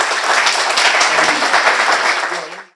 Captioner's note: applause